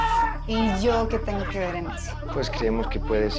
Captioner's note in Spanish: Gritos y exclamaciones